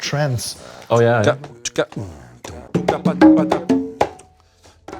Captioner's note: vocal percussion